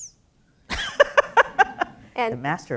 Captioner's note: kagan laughs loudly